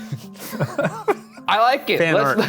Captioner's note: both laughing